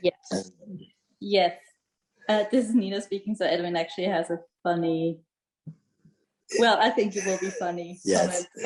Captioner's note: laughs